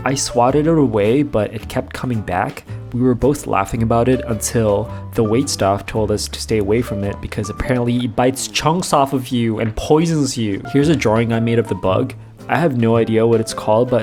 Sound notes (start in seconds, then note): none